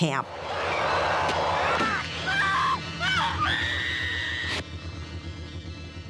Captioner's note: screaming